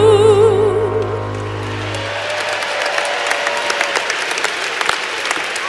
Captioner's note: applause